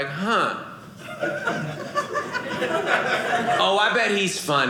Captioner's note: audience laughing